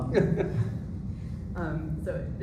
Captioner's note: laughs